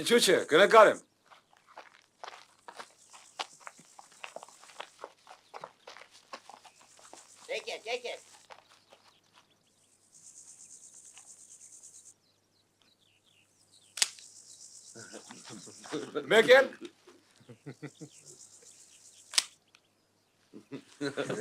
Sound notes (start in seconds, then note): 13.9 snap; 19.3 snap